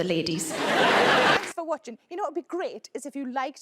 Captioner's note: audience laughs